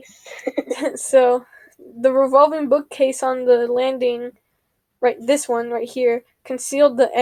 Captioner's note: laughs